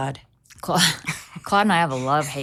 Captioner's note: both chuckling